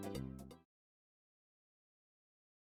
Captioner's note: extremely awkward silence